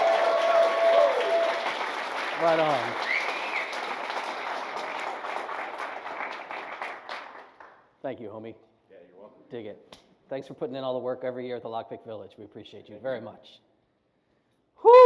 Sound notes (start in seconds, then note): 0.8 applause; 5.2 applause